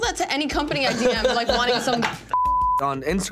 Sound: laughs; beeps

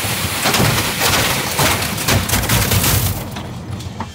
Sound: snow banging

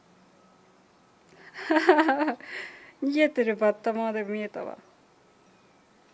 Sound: laughs

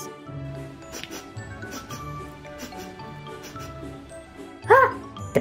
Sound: sniffing sound

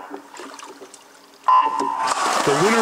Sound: starting beep

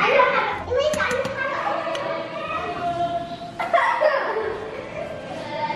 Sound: kids chattering and laughing

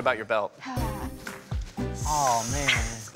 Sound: sighs

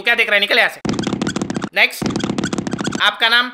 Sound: running sound

